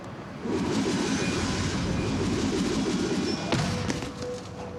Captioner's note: whooshing noise